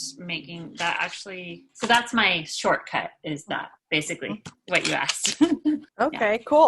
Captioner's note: laughter